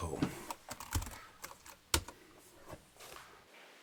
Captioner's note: keys clicking